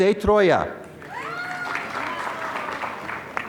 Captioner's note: applause